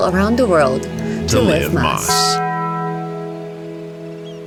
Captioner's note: bell chimes